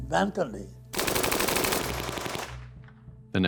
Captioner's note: machine gun fire